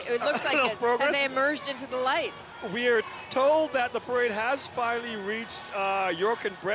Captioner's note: laughter